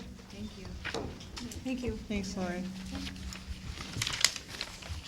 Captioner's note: various "thank yous"